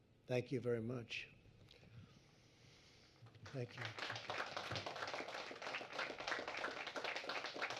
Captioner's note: applause